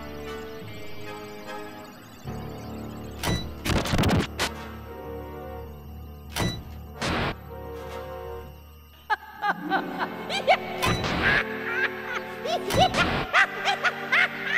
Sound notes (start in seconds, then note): 9.0 evil chuckles; 11.8 maniacal laughter